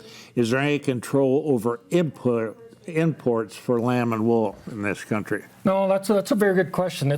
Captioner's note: none